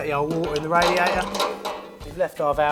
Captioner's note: tool clanging